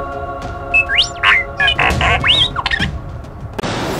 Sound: electronic beeps

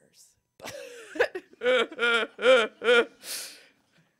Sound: laughter

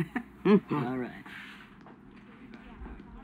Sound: both chuckle

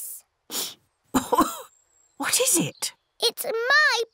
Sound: sniffs and coughs

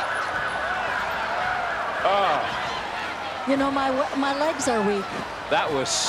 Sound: cheers and applause

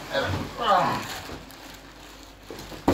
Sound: grunt

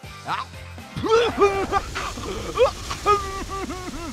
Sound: coughing, spluttering

